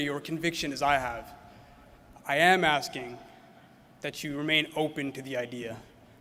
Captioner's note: none